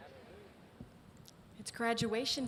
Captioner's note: crowd murmurs response